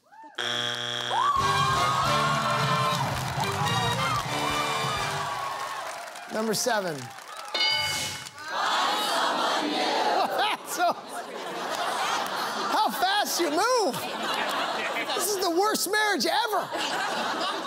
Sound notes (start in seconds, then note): 0.4 buzzer sounds; 1.0 cheering; 7.5 bell dings; 10.1 laughter